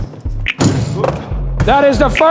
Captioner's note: dunk sound